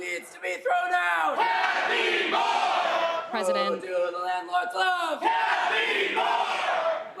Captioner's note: crowd chanting